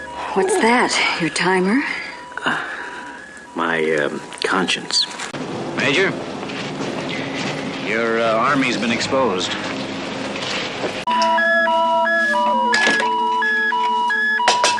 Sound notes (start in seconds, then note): 0.0 beep beep beep; 11.0 beep beep beep